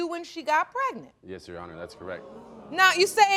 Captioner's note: audience gasping